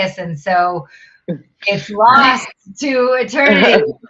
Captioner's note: chuckling